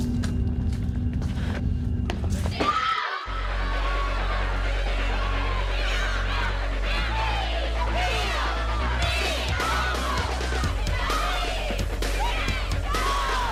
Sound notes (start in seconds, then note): 2.6 screaming